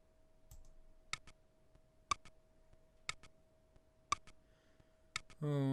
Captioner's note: stopwatch ticking